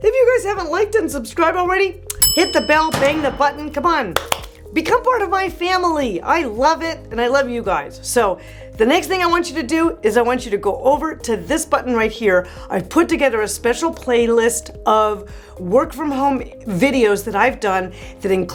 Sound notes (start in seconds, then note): 2.2 bell dings; 2.2 object bangs; 4.1 hands smacking